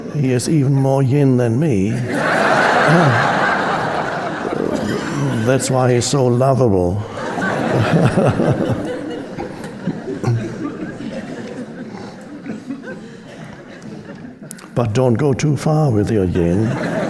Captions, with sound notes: He is even more yin than me. (audience laughing) That's why he's so lovable. (Eckhart chuckling) (audience chuckling) But don't go too far with your yin.